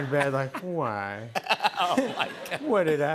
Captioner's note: laughing